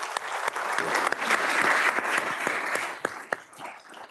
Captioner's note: applause